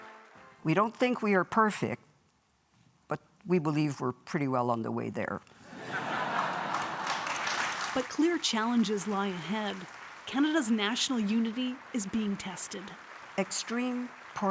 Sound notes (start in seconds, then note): 8.3 laughter; 8.9 applause